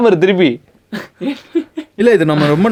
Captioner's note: laughs